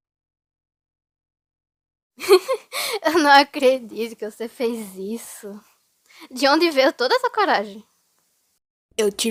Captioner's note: soft laughter